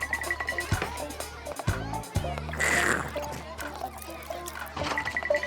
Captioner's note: slurps